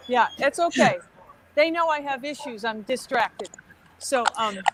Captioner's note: laughs